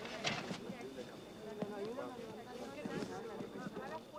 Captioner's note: indistinct chatter